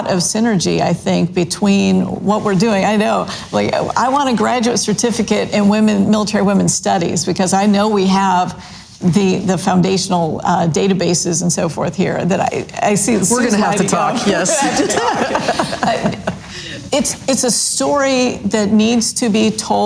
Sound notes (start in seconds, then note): 13.6 all laughs loudly